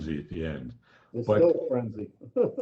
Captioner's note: laughter